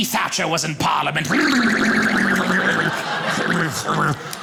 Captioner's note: audience laughing